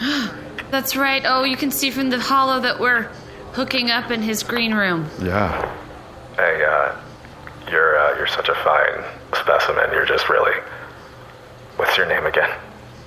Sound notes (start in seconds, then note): 0.0 gasps